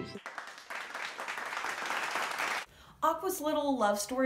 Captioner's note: audience clapping